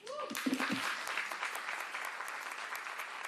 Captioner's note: applause